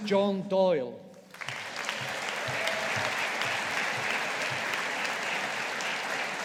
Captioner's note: audience applauding